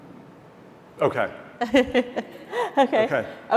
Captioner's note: laughs